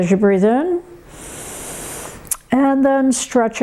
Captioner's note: breathing heavily